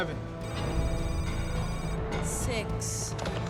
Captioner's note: electronic beeping